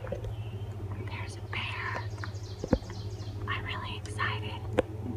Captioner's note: whispering